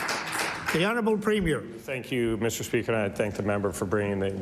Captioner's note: applause